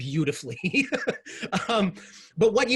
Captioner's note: laughs